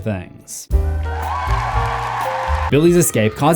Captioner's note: crowd applauding